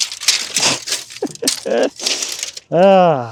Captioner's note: laughs